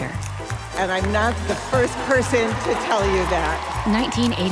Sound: applause

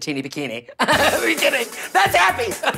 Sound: laugh

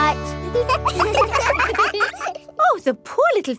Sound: children laugh

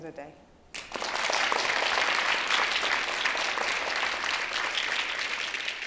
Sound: applause

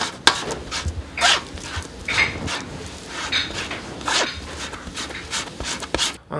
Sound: strain

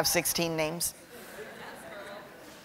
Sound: laughter

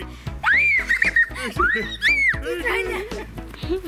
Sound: screaming

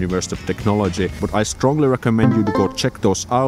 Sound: ding

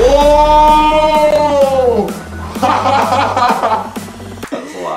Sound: laughing

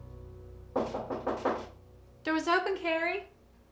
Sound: knocking on door

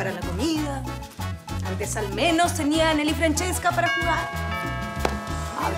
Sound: doorbell

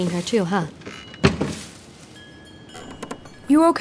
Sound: floorboard creaks, Wind chime clinks

